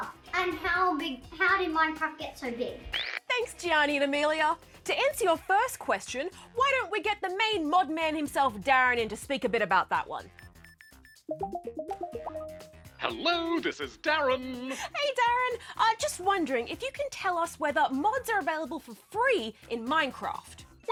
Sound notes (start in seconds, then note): 10.3 ringtone plays